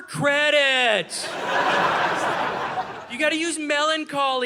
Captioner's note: audience laughing